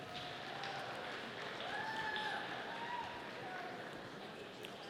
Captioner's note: audience applauding